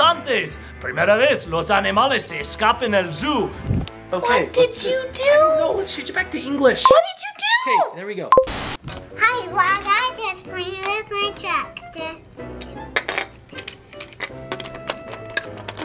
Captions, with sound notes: (speaking Spanish) - What did you do? - I don't know, let's change it back to English. - What did you do? - Okay, there we go. (TV static fizzing) - Hi, vlog. I'm just playing with my tractor.